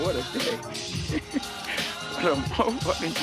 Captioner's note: laughing